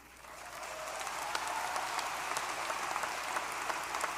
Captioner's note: applause